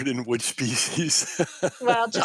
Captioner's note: laughs